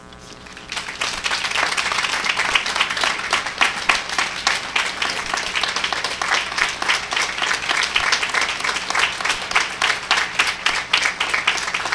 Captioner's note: applause